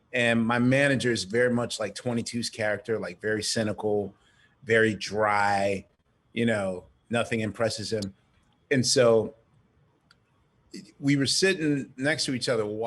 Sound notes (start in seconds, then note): none